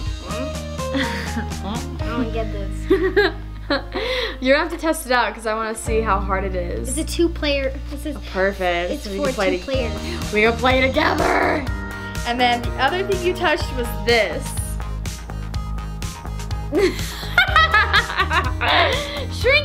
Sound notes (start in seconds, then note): 3.5 laughing; 16.8 laughing